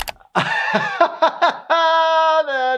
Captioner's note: laughs